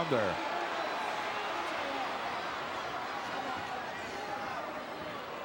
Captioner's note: crowd murmuring